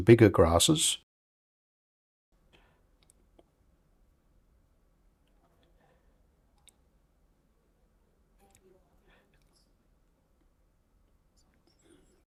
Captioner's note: silence